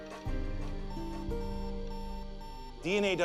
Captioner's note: computer beeping